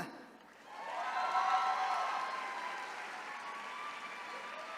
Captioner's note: attendees cheering